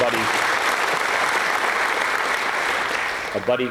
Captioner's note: applause